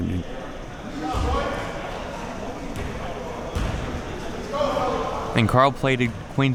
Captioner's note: audience chattering and yelling